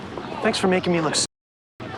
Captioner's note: none